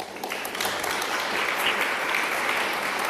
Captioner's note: applause